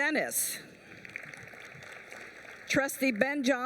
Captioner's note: applause